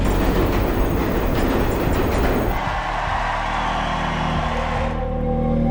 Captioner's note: subway car rumbling